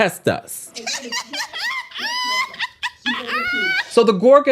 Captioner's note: woman laughing hysterically